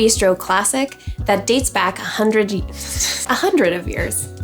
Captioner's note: laughs